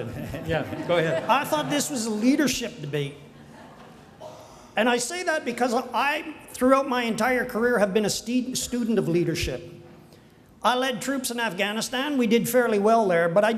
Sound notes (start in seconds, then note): 2.4 crowd laughing; 5.0 crowd chuckles